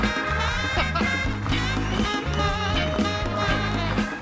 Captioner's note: laughs